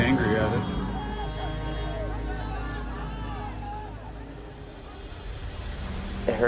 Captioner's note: crowd shouts in foreign language; uneasy music